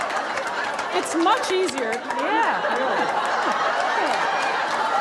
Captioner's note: laughter